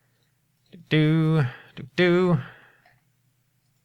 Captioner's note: humming